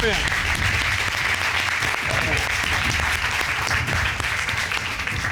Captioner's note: applause